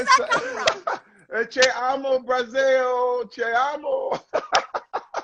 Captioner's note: non-english speech